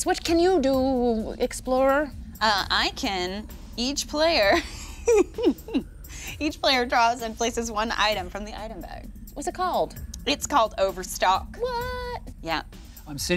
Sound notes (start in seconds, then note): 4.4 laughing